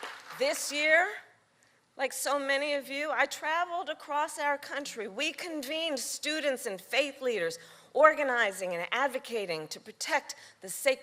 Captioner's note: cheering